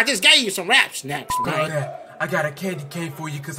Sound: beep

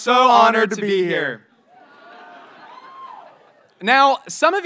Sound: audience members cheer

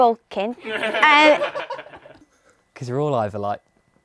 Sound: people laughing

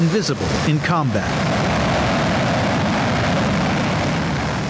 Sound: plane whizzing

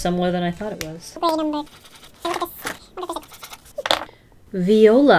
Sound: incoherent sped up chipmunk talk

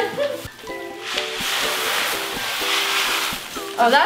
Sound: beads falling

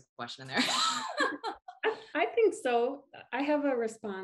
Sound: laugh

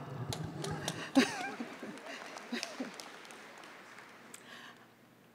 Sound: applause

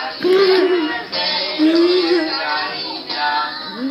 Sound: laughing

